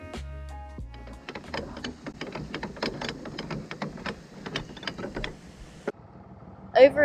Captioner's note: lock winding sounds